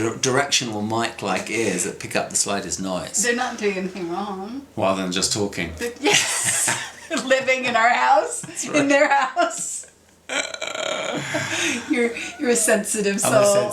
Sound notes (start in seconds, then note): 5.8 both laughs